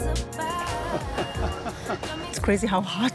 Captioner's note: laughs